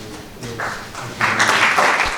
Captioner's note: applause